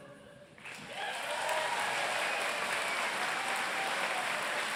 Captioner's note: applause